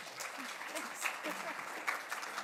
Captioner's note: applause